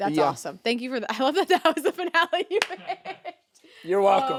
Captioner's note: laughing